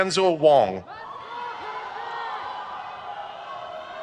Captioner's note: crowd cheers